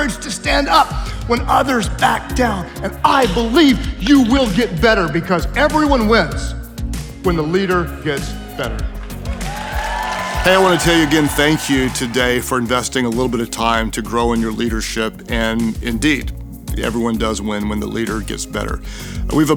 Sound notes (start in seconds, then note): 8.4 attendees cheering and applauding; 8.9 upbeat music